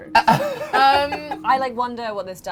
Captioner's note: laughing